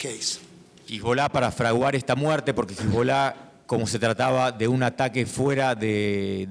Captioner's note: speaking in foreign language